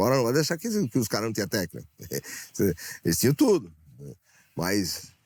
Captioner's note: laughing